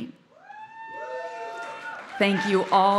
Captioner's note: audience cheering